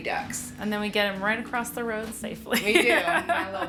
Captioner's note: laughs